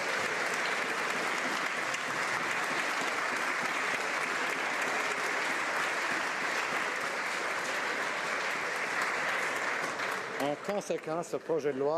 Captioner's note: applause